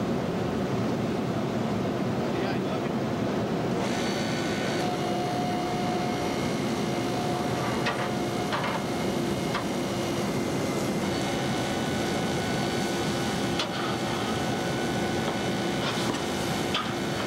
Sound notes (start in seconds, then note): 2.1 interposing voices, machinery operating